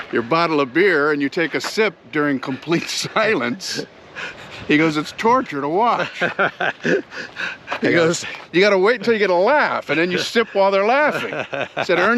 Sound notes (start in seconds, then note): 5.7 laughs; 11.3 laughs